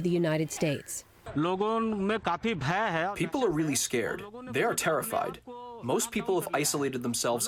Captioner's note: through translator